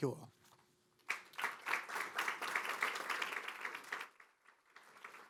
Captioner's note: audience applauding